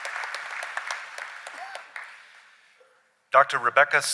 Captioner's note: applause